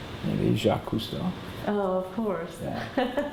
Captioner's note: laughs